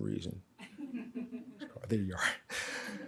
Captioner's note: audience laughs